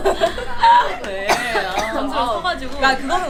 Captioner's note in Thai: แค่กๆ